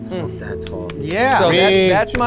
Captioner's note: hand claps